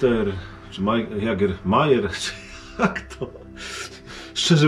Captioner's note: laughter